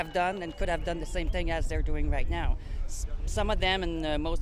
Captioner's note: cheers and Applause